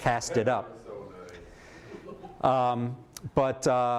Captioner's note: laughter